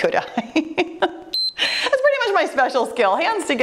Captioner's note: timer beeps